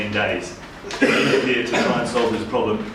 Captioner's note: background coughing